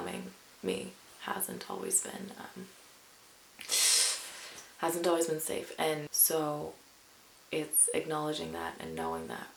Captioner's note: sucks through teeth